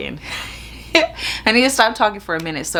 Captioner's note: chuckles